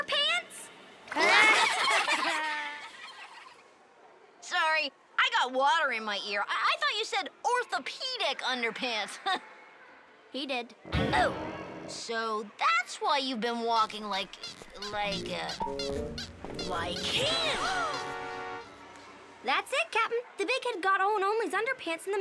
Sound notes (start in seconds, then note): 1.0 kids laugh; 13.7 squeaking